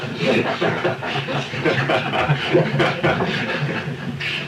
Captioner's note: laughter